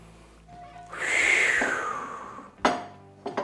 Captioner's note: breaths out